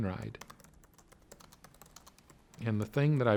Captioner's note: typing